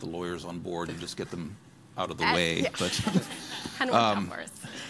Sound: laughing

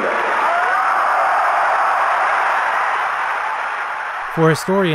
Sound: cheering

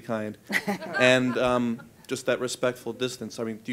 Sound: laughter

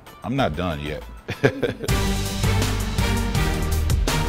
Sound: laughs

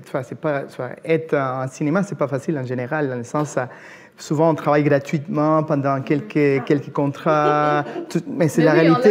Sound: laughs

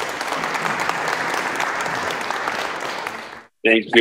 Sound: applause

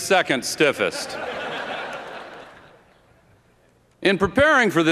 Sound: laughter

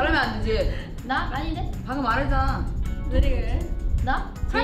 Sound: speaks in Korean

